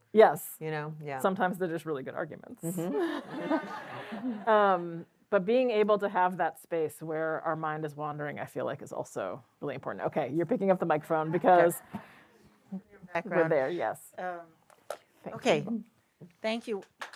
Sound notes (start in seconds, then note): 2.8 laughter